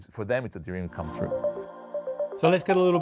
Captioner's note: screen chiming